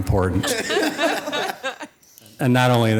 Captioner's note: audience laughing